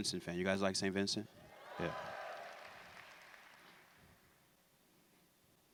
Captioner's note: applause